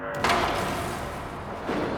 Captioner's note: clattering